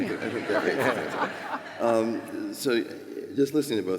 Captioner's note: laughter